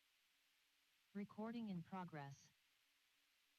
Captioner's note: computer Voice